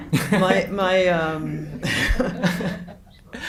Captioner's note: laughs